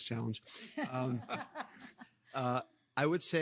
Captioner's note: participants laughing